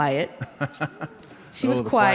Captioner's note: laughter